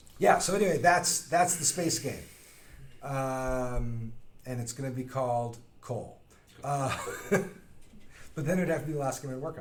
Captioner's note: laughing